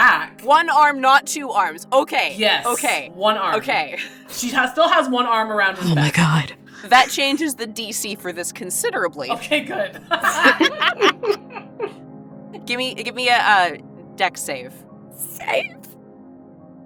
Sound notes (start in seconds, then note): 9.3 EVERYONE laughs